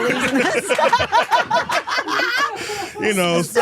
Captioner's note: all laughing